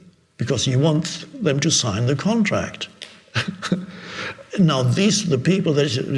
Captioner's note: chuckles